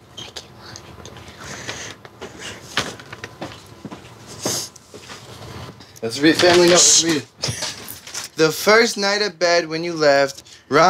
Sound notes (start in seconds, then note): 2.1 footsteps